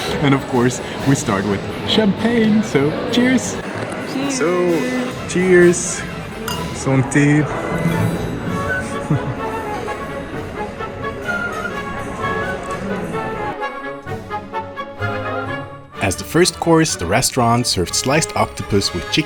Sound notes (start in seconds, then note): 6.4 speaks foreign language; 6.4 glasses clink; 8.9 upbeat orchestral music continues